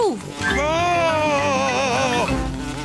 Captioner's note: screams